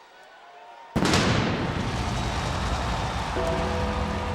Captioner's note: audience cheering; flames exploding; ominous music